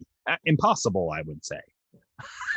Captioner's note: laughing